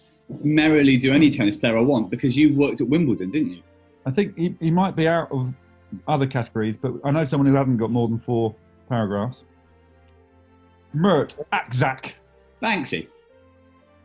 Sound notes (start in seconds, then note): none